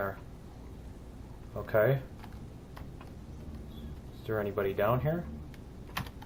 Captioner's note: drone humming; keystroke